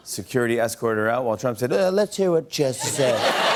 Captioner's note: As Trump; laughter and applause